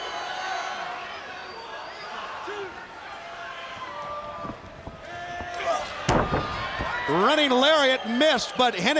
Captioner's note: crowd chatter